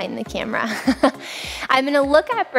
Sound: laughs

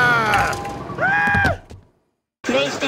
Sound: scream

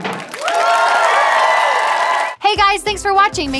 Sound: audience cheering

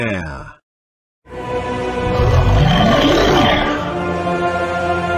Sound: evil Sound / Loud Roar

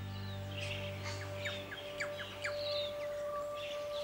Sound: birds chirping

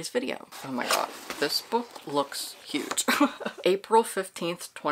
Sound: laughs

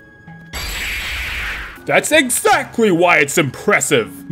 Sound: slap

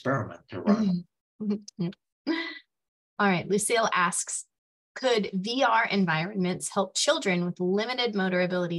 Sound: chuckles

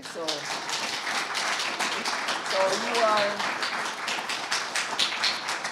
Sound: audience applauding

